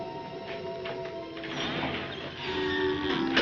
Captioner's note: door creaks